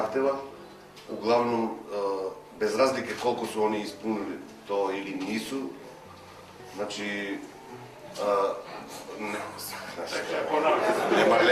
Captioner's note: laughing